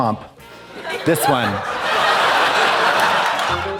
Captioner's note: audience laughs